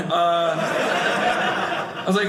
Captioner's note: audience laughing